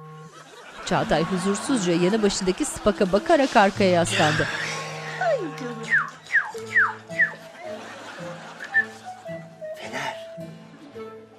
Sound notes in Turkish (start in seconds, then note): 3.9 Nefes sesi; 5.8 Islık sesi